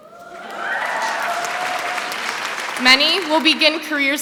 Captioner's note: applause